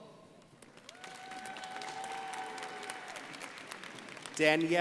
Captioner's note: crowd applauding